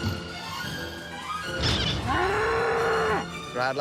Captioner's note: bull mooing